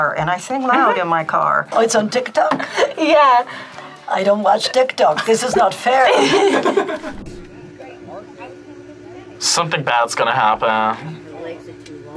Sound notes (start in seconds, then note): 5.0 laughs